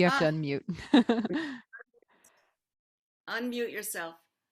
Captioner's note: laughs